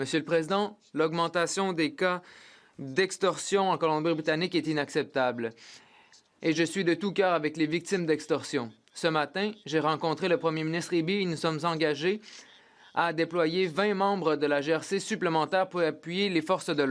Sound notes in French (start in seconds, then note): 5.7 voix de l'interprète